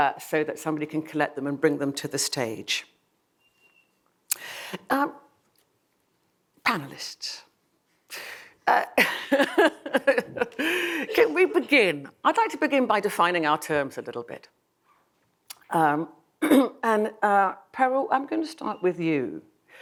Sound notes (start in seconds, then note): 8.8 laughs